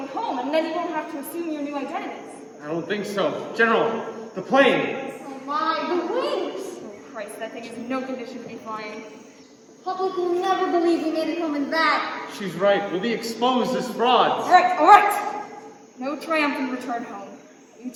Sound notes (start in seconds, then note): none